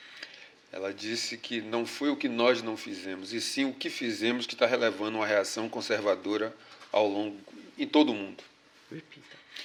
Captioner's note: speaking portuguese